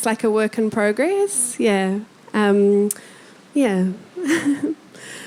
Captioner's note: chuckling